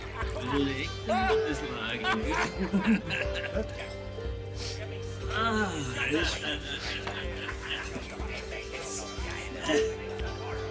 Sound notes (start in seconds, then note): 5.8 both chuckle